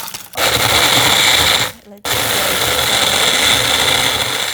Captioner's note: blender blending